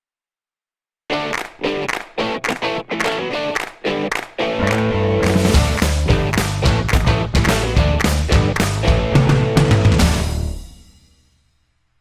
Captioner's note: claps